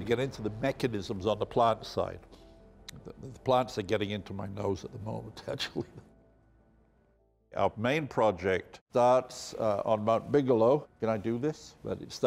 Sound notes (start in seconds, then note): 5.7 laughing